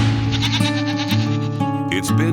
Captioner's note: goat bleating